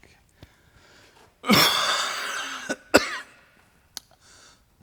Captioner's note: he coughs